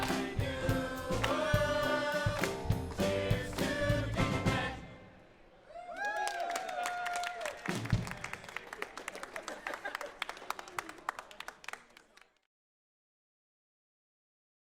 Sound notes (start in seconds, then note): 5.8 crowd cheers and applauds